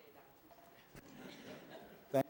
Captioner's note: laughter